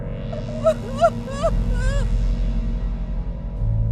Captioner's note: woman crying